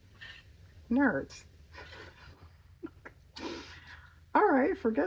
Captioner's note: laughs